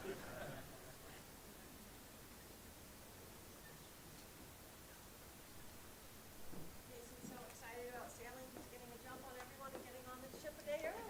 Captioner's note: applause